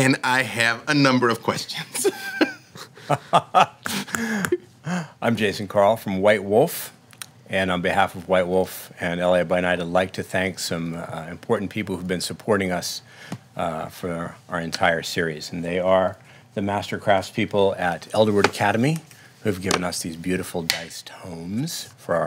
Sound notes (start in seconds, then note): 1.9 laughing